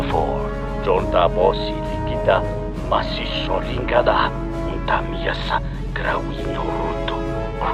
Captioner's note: Speaking in Twi'leki